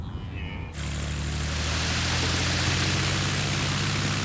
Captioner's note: plane buzzing